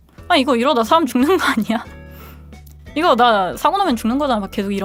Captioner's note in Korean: 웃음